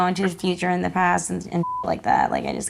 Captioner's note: beep